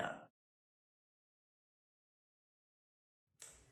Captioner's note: silence